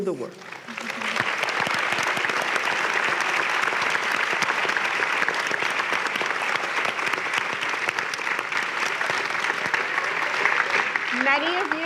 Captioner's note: applause